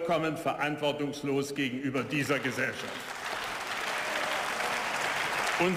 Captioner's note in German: Beifall